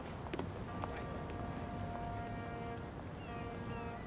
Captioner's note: truck honking